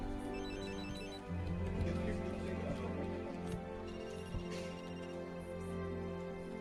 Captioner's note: people chattering; phone ringing